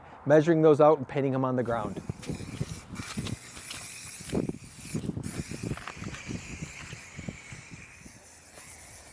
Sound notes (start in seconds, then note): 1.6 spray can hissing